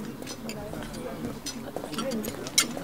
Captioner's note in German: Stimmengewirr, Geschirrklappern